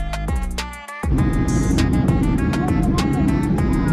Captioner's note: engine noise over music